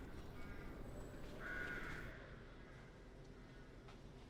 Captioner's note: birds crowing